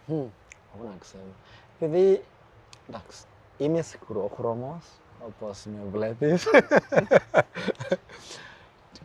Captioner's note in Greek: γέλια; χαχανίζει